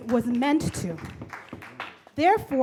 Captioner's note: audience claps